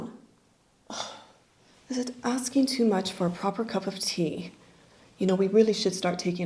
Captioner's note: sighs